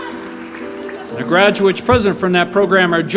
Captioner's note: applause